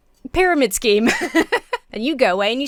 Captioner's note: laughs